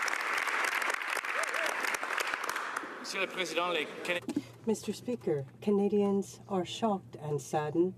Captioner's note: some Applause